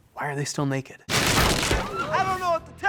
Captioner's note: body crashing; mourners screaming